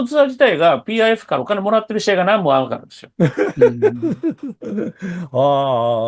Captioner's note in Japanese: 笑い